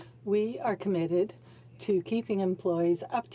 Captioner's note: speaking French